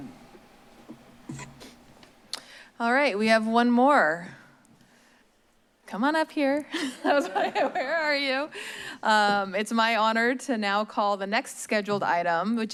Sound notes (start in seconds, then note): 6.7 laugh